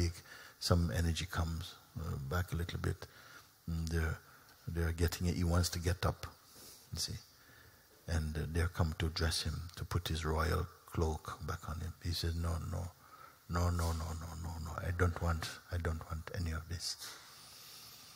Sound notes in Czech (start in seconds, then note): none